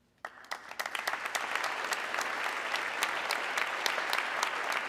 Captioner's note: audience clapping